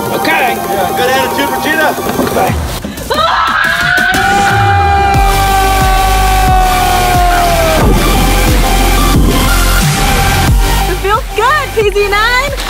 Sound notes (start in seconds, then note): 3.1 screams loudly; 8.1 upbeat music